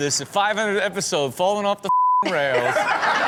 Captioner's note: beep; Steelo and Chanel laugh